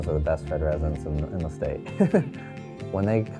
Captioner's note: laughs